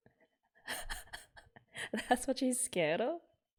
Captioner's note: laughs